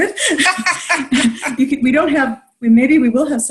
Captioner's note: laughing